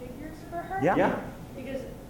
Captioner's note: voiceover